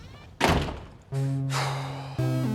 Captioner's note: sighs